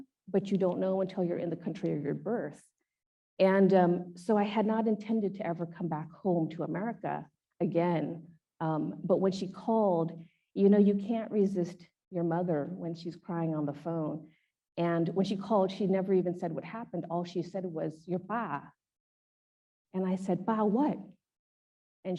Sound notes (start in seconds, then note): 17.9 speaks in Khmer